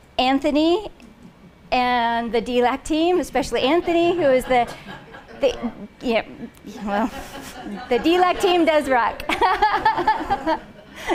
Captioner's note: laughing